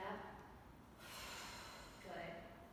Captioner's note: exhaling